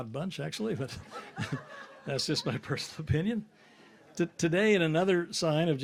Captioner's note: chuckles